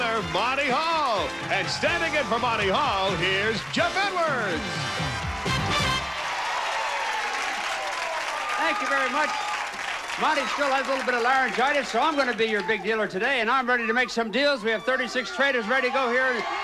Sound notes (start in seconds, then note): 7.2 audience applauding